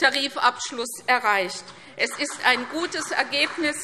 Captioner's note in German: Beifall CDU und BÜNDNIS 90/DIE GRÜNEN